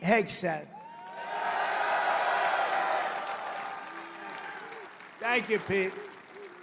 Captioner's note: applause